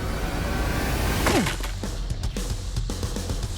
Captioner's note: ice cracking